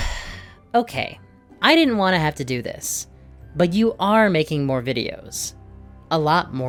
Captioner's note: sigh